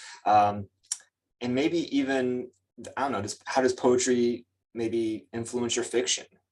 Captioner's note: lips smack